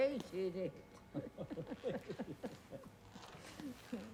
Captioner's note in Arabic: كلاهما يضحك